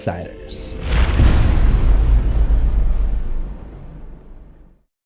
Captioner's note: impact